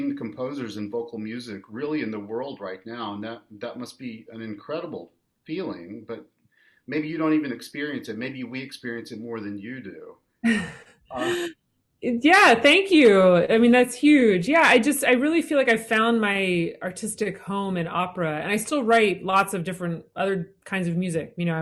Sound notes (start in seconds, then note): 11.1 laughs